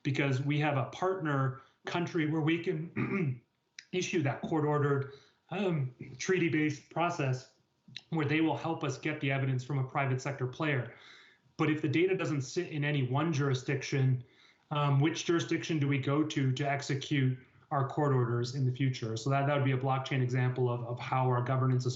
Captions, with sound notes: Because we have a partner country where we can, (clears throat) issue that court ordered, treaty based process. Or they will help us get the evidence from a private sector player. But if the data doesn't sit in any one jurisdiction, which jurisdiction do we go to to execute our court orders in the future? So that'd be a blockchain example of how our governance